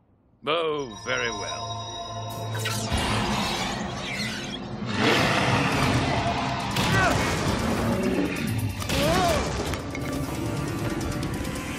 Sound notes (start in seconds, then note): 4.9 roaring